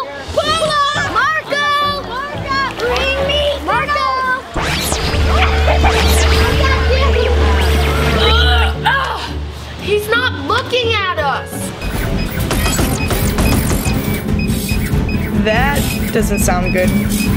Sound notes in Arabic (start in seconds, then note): 4.5 ضوضاء الكهرباء; 12.0 أصوات التصفير